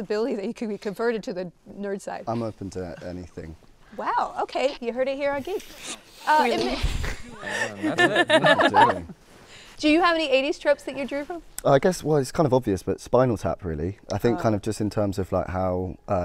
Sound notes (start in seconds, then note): 7.0 people laughing